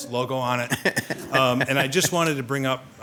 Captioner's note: laughs